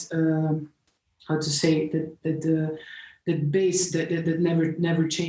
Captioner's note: none